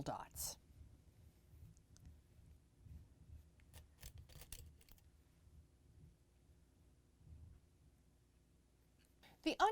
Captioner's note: no Significant Sound